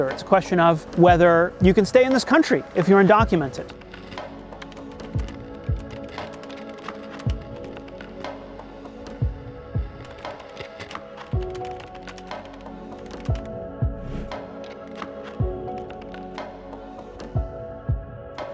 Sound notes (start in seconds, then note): 4.5 keyboard clicks; 14.8 soft music